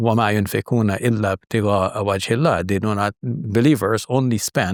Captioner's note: speaking Arabic